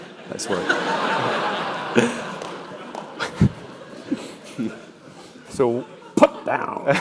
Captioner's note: laugh